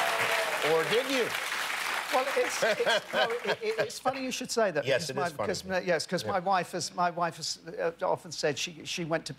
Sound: laughter

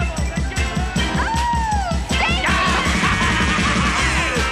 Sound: man laughing

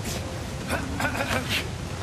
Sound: offscreen, John clears his throat

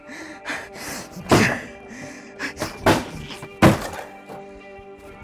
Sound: metal bashes against plastic

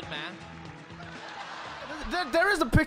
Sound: crowd laughing

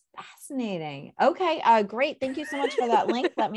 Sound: laughs

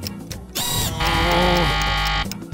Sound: groaning

